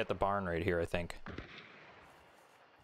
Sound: gunshot

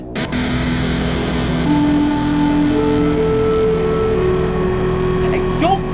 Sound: guitar, alarm sounds, the umbral engine is overloading

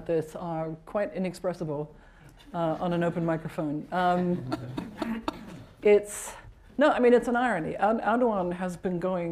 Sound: laughter

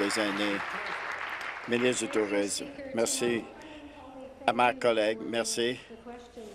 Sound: applause

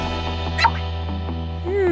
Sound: Woomy Squeak

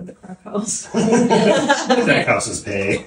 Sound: laughing

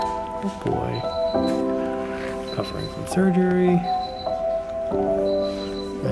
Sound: medical equipment beeps

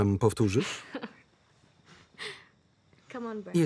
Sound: laughter

